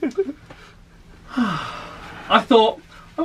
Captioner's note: laughs; sighs